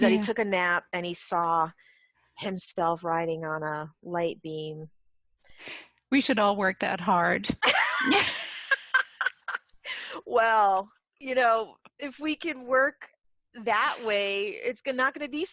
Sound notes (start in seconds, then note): 11.2 laugh